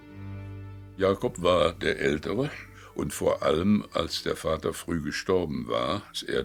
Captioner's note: speaking in foreign language